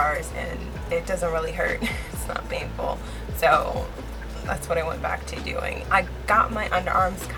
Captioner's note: laughs